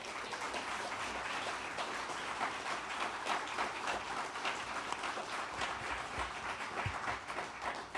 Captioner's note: applause